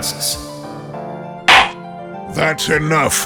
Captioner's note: gavel slams!